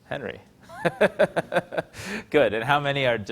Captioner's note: laughing